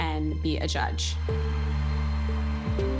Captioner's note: crowd cheering